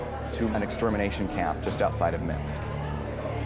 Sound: none

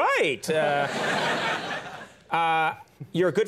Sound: audience laughs

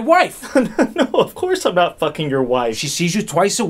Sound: laughs

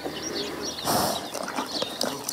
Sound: nat sound horses step or whinny

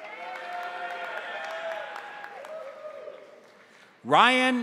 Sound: crowd cheering; crowd applauding

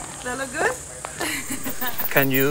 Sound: chuckles

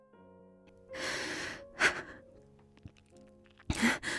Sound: her breath catches, and for a moment, you can hear a sob in her voice

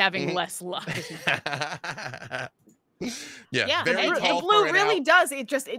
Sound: laughing

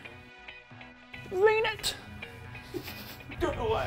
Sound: giggles

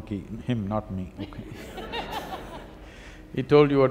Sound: laughter

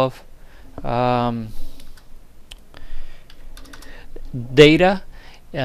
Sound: typing

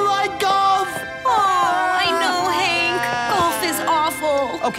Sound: crying

